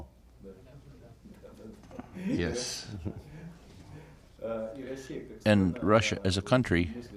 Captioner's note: through translator